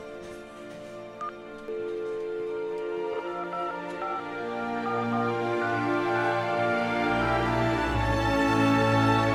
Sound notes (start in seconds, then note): 0.9 pressing phone button; 1.2 phone dialling sound